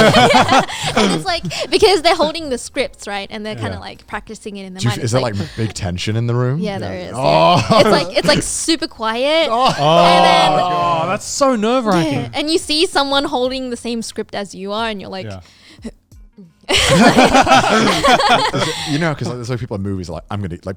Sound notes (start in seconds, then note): 0.0 everyone laughing; 9.4 boys groaning; 16.7 everyone laughing